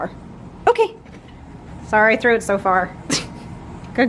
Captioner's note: laughs